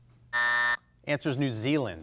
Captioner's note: buzzer blares